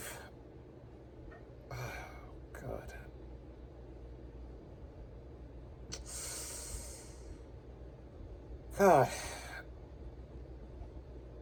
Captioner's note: Ava stammers